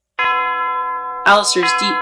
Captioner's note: seven chimes